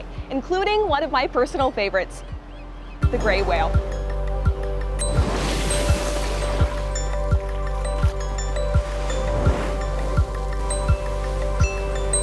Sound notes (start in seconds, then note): 4.1 soft upbeat music continues; 5.0 water splashing